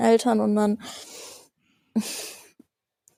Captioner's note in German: Sie seufzt